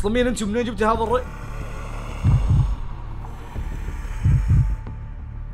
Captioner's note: demonic voice